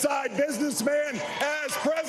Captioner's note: applause